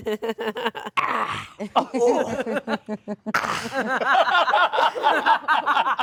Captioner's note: all laugh